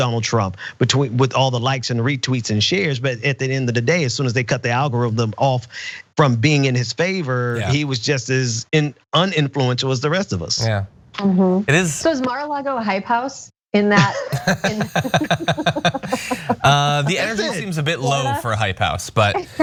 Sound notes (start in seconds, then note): 14.3 laugh